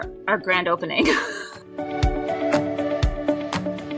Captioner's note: person laughing; upbeat music